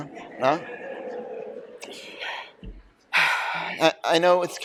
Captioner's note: laughter